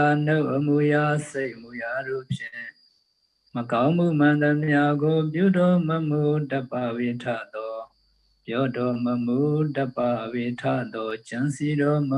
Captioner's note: pali chanting